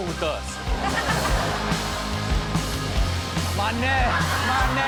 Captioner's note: all laugh